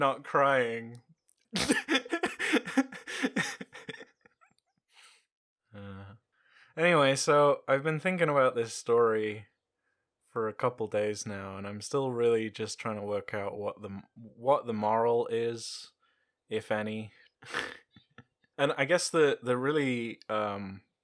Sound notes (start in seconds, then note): 1.6 snorts laughing and then weeps a little bit; 16.9 chuckles